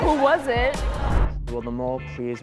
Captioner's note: woosh